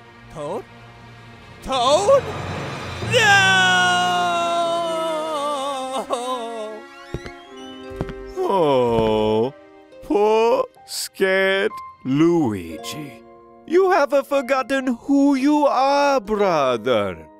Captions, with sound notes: Toad? TOAD?!? NOOOOOOOOOOOOOOOOOO! (creak!) Ooh.. Poor... scared... Luigi. You have-a forgotten who you are, brother.